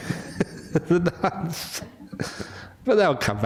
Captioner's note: laughter